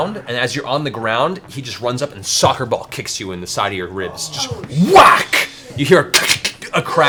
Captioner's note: whack